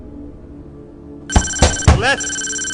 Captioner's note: thudding blows